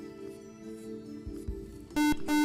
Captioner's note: buzzer